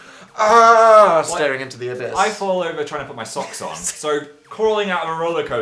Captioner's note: laughs